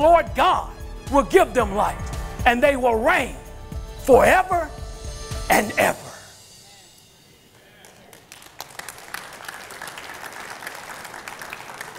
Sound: crowd Applauds

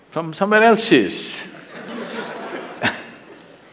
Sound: laughter

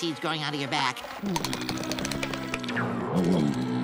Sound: groaning; moaning

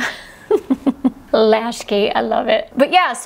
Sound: laughs

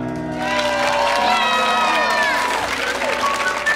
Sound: audience cheering

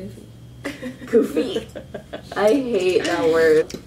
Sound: laughs

